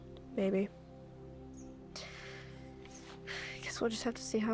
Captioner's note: inhales and exhales